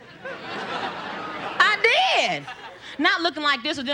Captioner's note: audience laughter